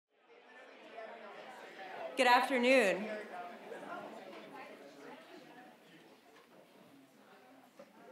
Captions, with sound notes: (audience chattering) - Good afternoon.